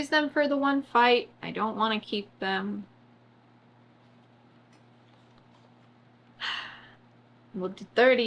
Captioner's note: sighs